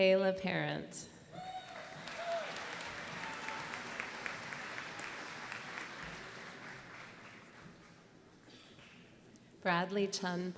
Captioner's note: applause